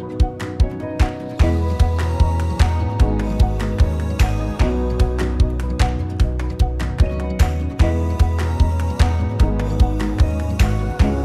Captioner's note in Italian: Applauso